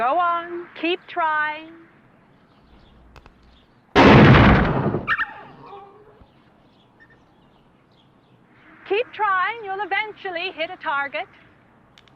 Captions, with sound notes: - Go on, keep trying. (gunshot and animal crying out) Keep trying, you'll eventually hit a target.